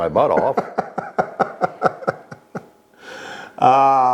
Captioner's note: laughing